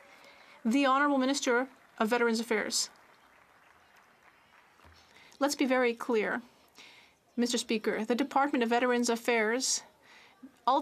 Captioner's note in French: applaudissements